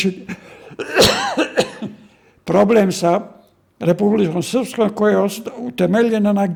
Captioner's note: cough; laughter